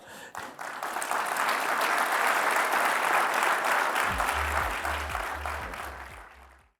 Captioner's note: applause